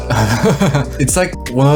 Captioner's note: laughing